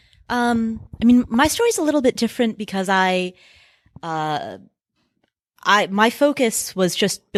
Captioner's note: none